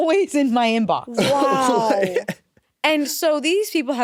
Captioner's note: laughs